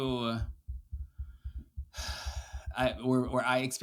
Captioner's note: sighs